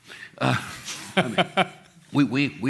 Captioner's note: laughs